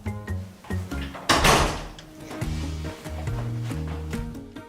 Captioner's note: door slamming